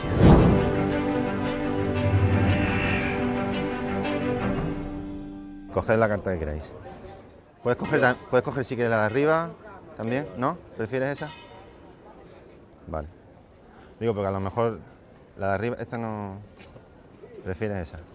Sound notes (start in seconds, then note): none